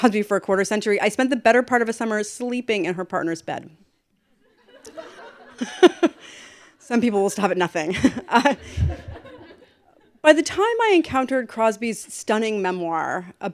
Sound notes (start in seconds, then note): 4.4 laughter; 8.8 laughter